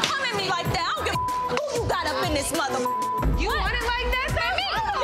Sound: beep; girls shouting over each other

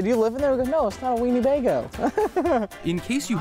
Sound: laughing

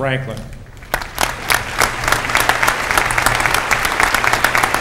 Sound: applause

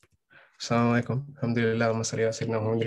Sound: speaking arabic

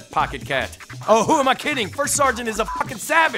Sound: beeps

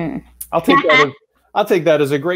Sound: chuckles

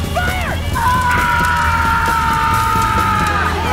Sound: both screaming

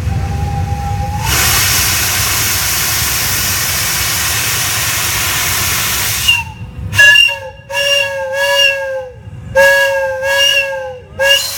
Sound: steam sounds and whistling

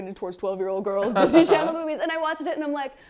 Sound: laughs

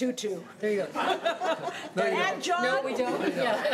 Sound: laughing

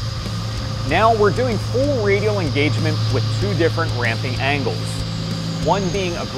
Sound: machining noises

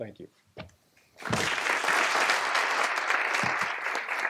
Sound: applause

